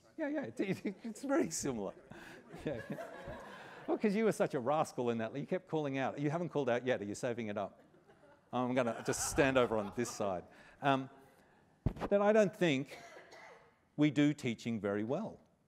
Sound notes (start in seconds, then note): 2.2 laughter; 7.8 laughter